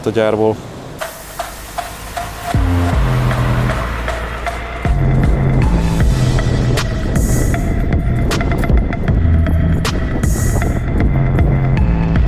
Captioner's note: engine sound & light music playing